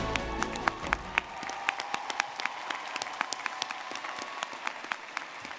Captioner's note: dramatic music; audience clapping and cheering